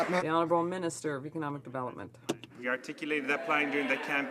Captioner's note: some Applause